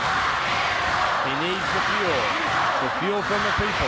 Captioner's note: crowd cheering